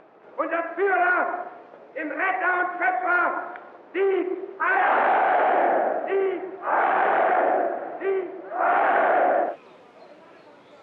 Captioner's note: german language